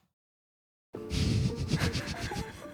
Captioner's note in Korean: 웃음